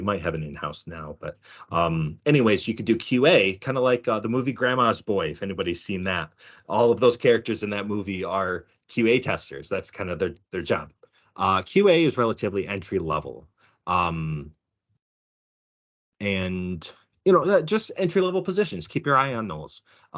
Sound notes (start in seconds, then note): none